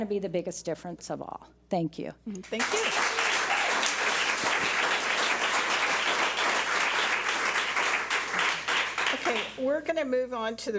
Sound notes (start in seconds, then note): 4.1 public applauding